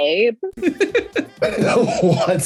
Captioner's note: Brandon laughs; Nick laughs